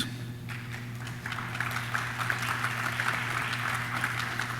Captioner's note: audience claps